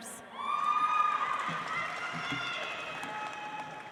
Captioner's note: audience applauds